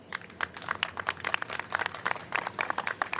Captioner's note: applause